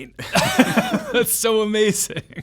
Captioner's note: laughs